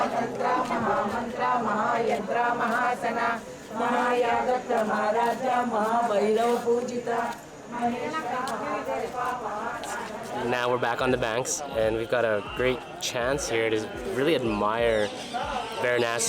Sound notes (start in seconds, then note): 1.2 chanting